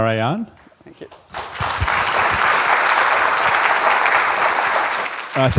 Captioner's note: applause